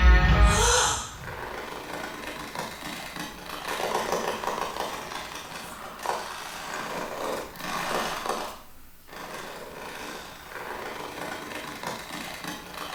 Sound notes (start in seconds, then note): 0.4 woman gasps; 0.8 metal rattling